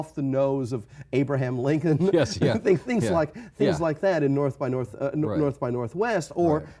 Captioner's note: laughs